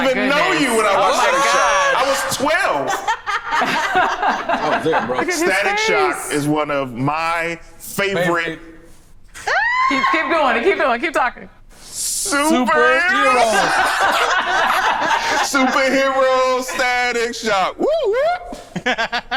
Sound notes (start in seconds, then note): 3.3 group laughs; 9.4 screams; 13.1 group laughs; 17.7 makes alarm sound; 18.4 laughs